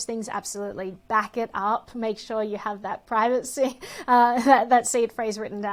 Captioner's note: sighs